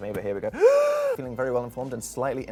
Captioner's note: inhales dramatically